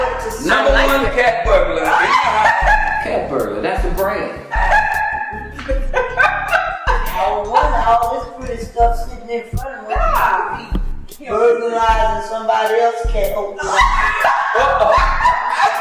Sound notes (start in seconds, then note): 4.3 laughing